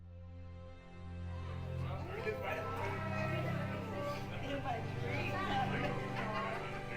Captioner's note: gentle orchestral music; people chattering